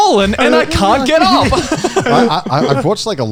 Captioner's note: laughs